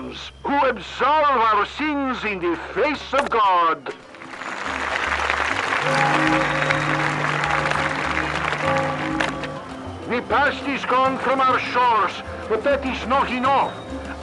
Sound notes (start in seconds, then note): 4.1 applause and church bells